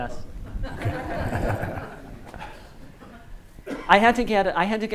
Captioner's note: audience laughs